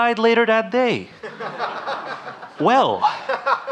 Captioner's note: audience laughing